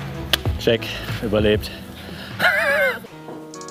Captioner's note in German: Ausatmen; Er lacht; Ruhige Musik